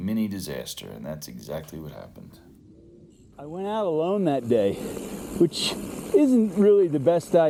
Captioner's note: mountain bike whirring, gravel crunching